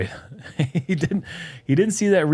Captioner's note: laughs